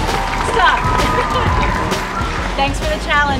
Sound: applause

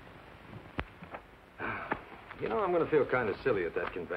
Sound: sighs

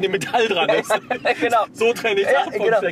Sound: laughs

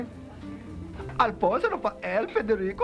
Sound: speaking foreign language

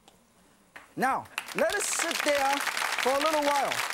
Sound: audience applause

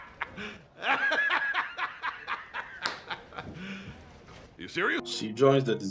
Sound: laughs

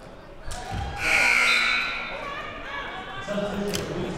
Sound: buzzer sounding

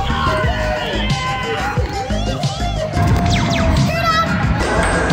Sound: people cheering

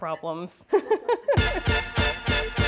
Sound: laughs; upbeat music

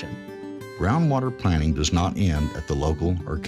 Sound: voiceover

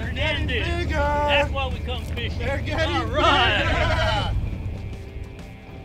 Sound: men laugh

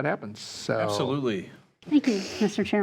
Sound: trustees chuckling

